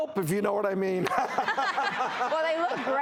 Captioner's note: laughing